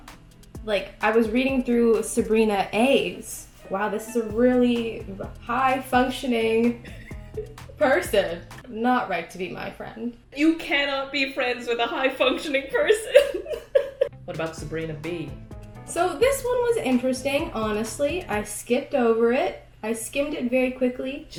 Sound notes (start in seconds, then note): 13.1 giggling